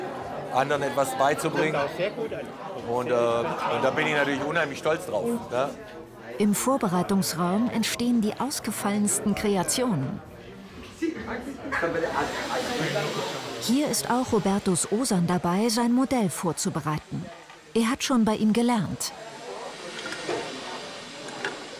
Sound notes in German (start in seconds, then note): 11.1 Stimmengewirr; 19.1 Stimmengewirr, Klacken